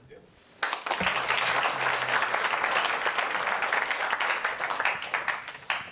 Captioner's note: applause